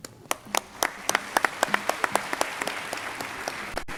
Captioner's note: crowd applauding